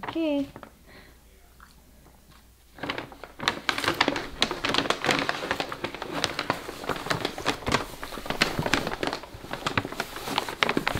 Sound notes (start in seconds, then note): 2.6 bag crinkling